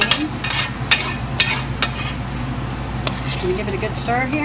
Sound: spoon clanging

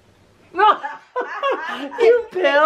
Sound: laugh

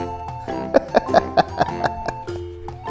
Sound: laughs

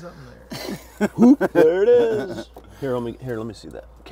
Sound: laughs

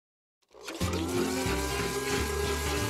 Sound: blender whirring

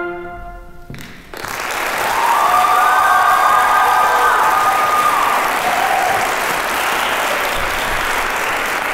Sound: applause

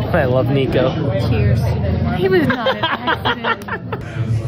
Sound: laughing

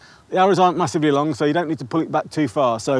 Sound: none

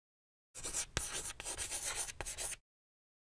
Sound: chalk scratching

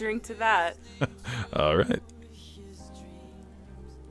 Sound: chuckles

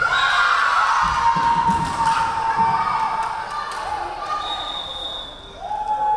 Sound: crowd cheering; referee whistling

